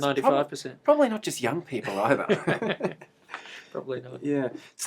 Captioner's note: laughter